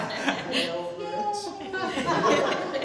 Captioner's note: laughter